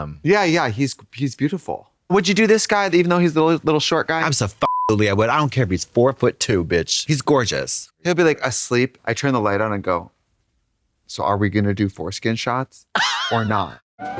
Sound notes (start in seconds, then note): 4.6 beep